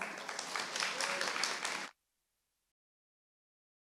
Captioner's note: audience applauds